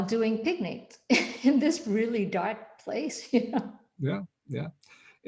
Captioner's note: laughs